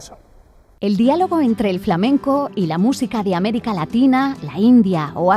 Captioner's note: speaking in Spanish